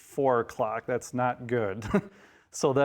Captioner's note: chuckles